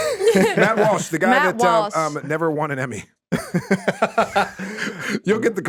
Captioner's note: laughing; laughing